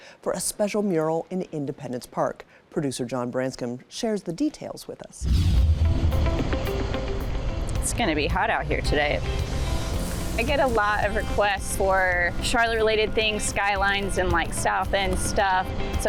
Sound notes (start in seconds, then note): 5.2 screen whooshing; 5.5 bright music